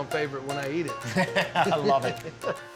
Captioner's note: laughs